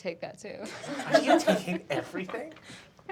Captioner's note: laughter